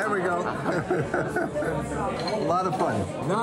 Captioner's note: laughter